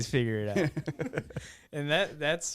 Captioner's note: laughing